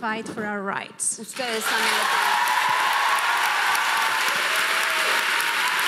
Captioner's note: audience applauding